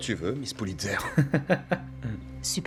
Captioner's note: laugh